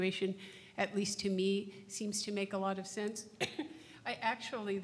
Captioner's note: coughs